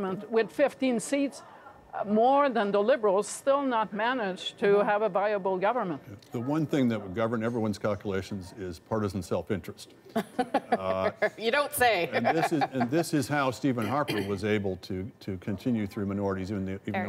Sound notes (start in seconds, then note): 12.0 laughter